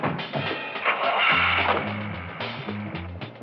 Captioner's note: engine starts